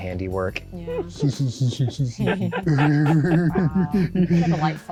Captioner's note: all laughing